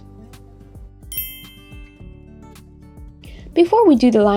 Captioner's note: bell dings